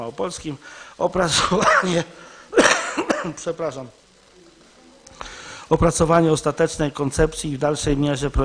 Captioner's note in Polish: kaszel